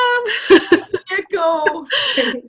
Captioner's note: laughter